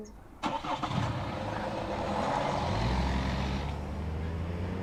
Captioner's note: car engine starts, driving sounds